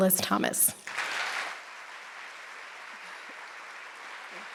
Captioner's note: audience applauds